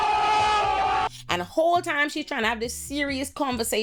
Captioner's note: crowd cheering